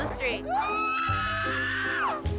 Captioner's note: screaming shrilly